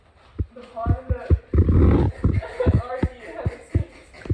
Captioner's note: starts to laugh uncontrollably